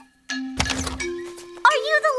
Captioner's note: door opening